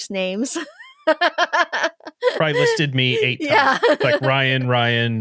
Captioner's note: laughing